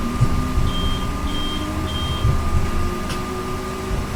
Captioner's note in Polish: Pik-pik-pik - czas odjeżdżać